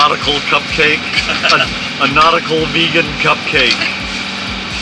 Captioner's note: laughter